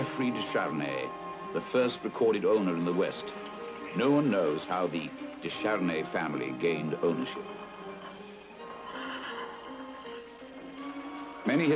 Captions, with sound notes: the first recorded owner in the West. No one knows how the de Charny family gained ownership. (horses neighing) Many historians think it might have fallen into the hands